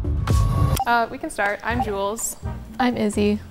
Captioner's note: clock ticking